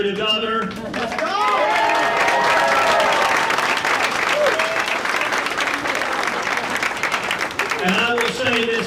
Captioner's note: applause